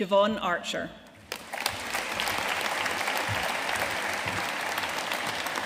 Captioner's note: audience cheering and applauding